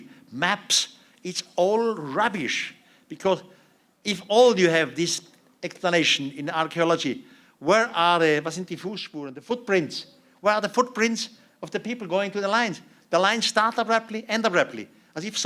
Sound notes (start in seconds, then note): 8.2 non-english speech